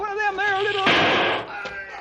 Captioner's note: gun fires